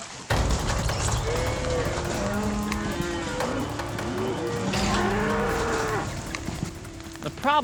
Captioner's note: mooing